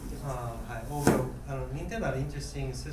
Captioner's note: bang